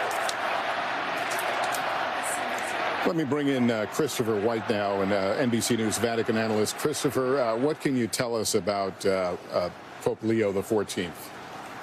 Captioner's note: cheering